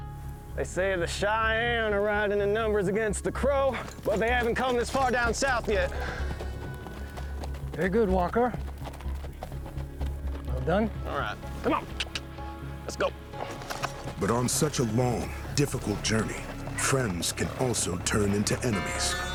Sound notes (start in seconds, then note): 12.0 clicks